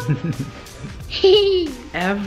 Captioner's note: laughter